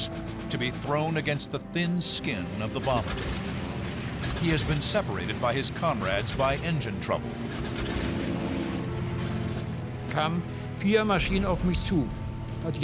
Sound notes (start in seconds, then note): 7.5 engine sputtering; 10.9 speaking german